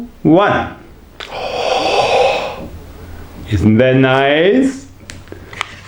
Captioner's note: moan with pleasure